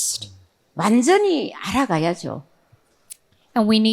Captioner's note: speaking in foreign language